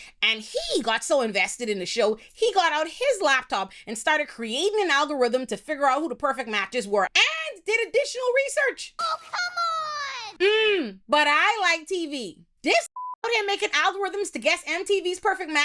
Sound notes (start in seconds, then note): 12.9 beep